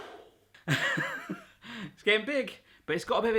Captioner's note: laughing